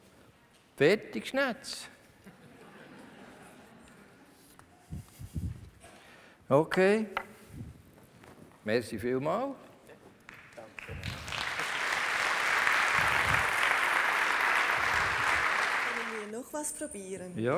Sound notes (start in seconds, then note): 2.3 laughter from the audience; 10.2 applause